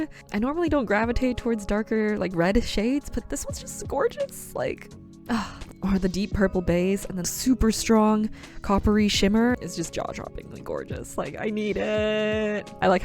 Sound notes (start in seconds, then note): 5.3 sighs